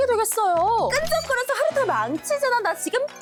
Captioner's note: unpleasant sound effect